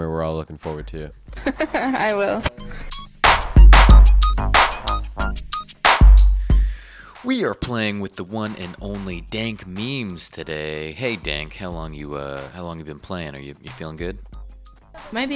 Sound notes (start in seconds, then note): 1.3 laughing; 2.4 electronic music